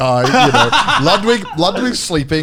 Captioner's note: Garnt laughing